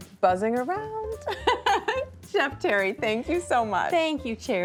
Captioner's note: laughs